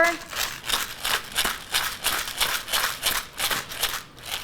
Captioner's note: grinder grinds